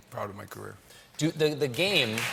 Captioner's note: cheers and applause